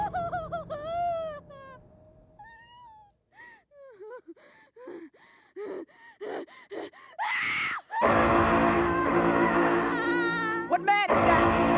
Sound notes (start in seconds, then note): 7.2 screams; 7.7 alarm sounding